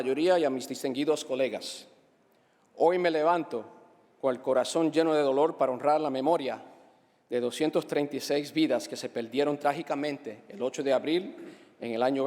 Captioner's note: speaking spanish